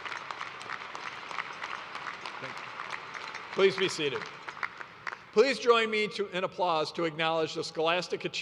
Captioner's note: applause